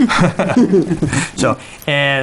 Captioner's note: laughs